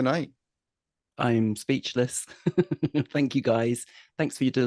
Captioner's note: laughs